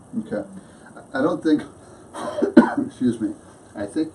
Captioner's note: coughs